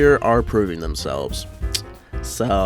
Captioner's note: clicks tongue